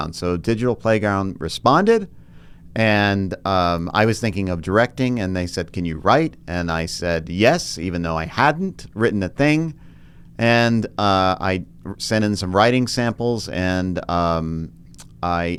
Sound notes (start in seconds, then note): none